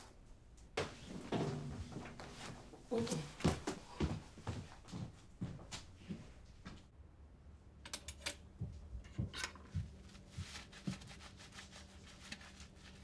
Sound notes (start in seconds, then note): 0.5 footsteps